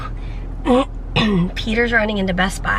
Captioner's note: clears throat